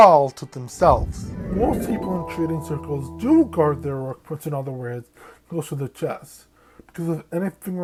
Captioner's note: Arthur flashback end sound effect